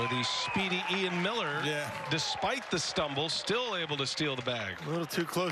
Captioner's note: cheers and applause